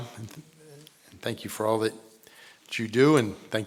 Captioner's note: none